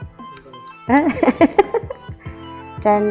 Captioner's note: laugh